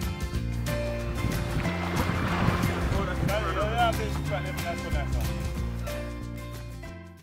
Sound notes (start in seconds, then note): 0.1 upbeat music playing; 2.6 indistinguishable chatter from fishermen off camera